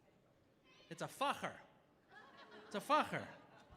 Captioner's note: audience laughing